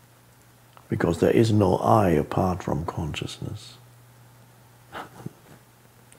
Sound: laughs

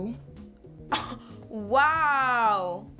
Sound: Cynthia Chuckles

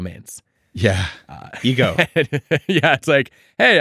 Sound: Adam laughing

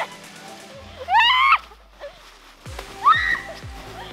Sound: squeals

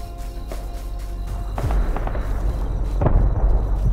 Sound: distant gunfire; boom

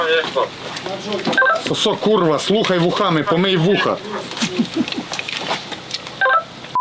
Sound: laughing

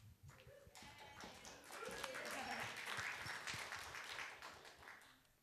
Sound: applause

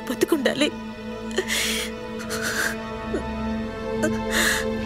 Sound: sobbing

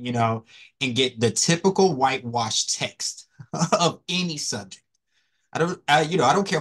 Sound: laugh

